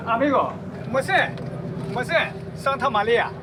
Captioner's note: speaking in foreign language